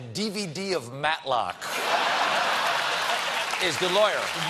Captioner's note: laughter; applause